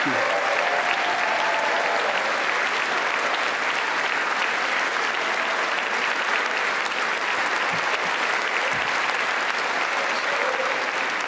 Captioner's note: applause